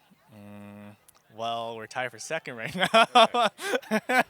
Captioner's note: laughs